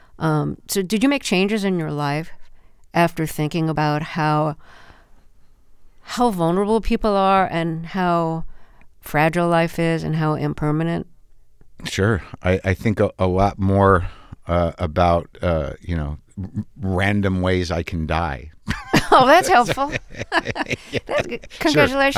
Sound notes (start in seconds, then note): 18.6 laughter